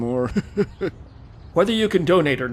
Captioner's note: laugh